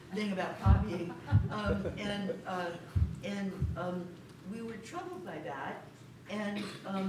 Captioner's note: laughter